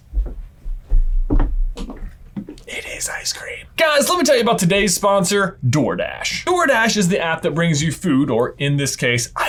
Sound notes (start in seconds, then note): 2.6 whispers